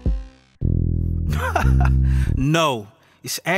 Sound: laughing

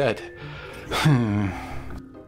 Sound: sigh

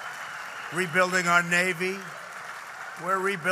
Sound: applause

